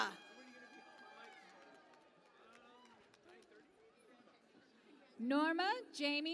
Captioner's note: cheering and Applause